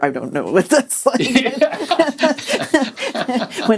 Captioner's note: laughter